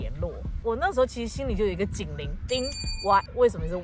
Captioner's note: ding!